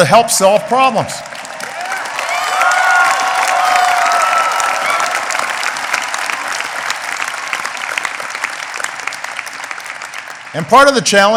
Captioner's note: applause